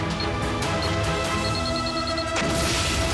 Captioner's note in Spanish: bip acelerado; explosión